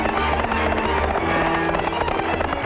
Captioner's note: lively trumpet music; horse galloping; lively orchestral music